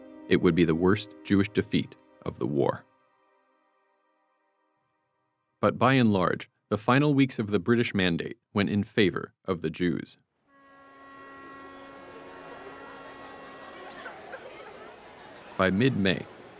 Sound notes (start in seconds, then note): 10.4 ship blows horn, crowd rustles; 13.9 woman crying